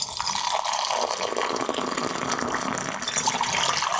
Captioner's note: liquid burbles